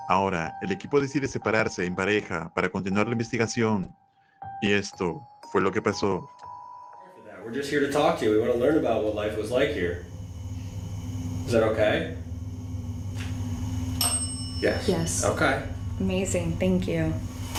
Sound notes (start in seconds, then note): 13.9 bell ringing